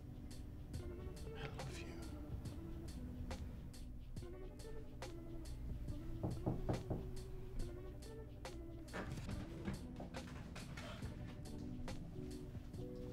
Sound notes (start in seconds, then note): 6.2 knock on door